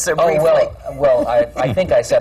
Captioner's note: laughs